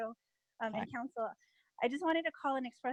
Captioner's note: Spanish